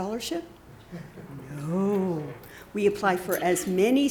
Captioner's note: chuckling